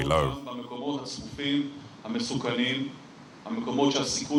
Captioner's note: Hebrew spoken audio